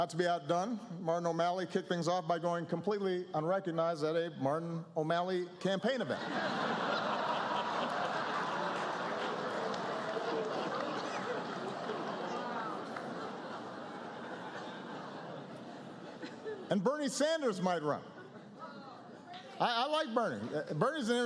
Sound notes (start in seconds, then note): 9.7 laughter, applause